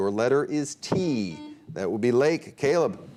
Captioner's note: buzzer beep